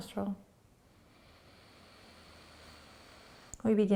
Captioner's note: inhaling